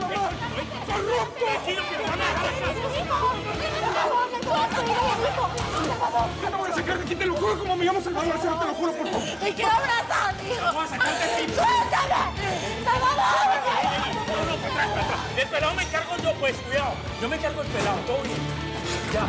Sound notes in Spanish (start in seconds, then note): 0.0 discuten a gritos; 0.3 todos gritan; 12.9 gritos